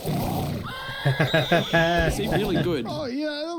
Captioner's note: laughing